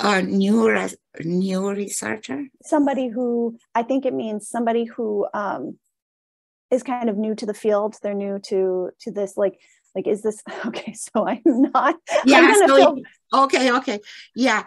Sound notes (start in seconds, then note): 10.5 laughs